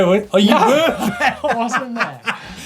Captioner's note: laughs